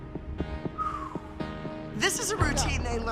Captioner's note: whistling exhale